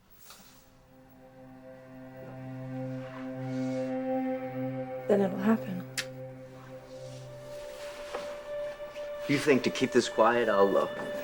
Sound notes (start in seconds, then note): 6.1 light clicks